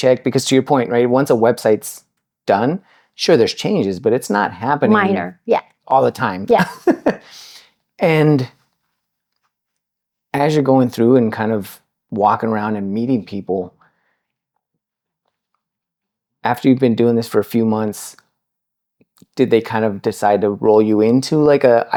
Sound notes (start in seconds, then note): 6.6 laughing